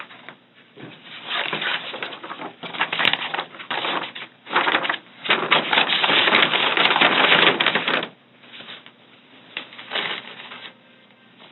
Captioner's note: paper bag rustles noisily